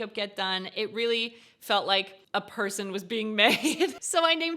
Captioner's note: chuckles